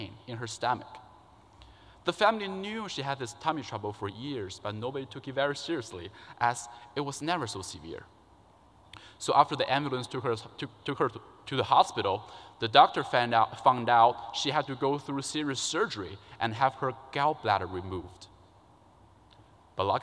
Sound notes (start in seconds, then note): none